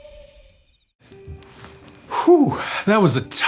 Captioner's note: wolf howling; fire crackling